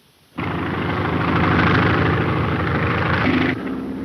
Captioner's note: engines roaring